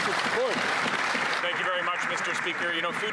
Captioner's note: applause